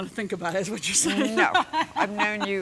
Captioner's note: laughs